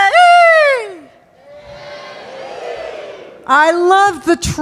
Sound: yelling; audience yelling

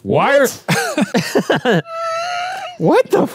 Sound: laugh

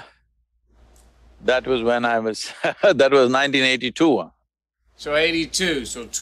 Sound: laughs

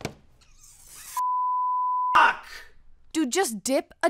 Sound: beep

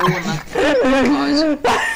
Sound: rib shattering laughter; gasping for air

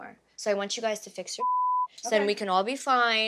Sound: beep

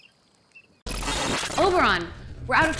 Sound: glitches

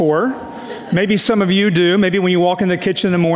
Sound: audience laughs

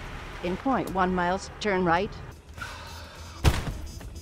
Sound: crash!

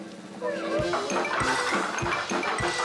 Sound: clacking

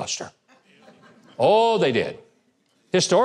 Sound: audience laughing

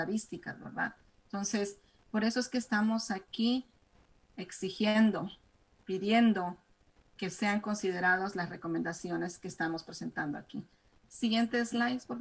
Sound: speaking spanish

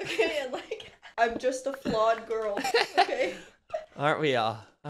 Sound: laughing

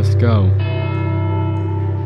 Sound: bell Tolls

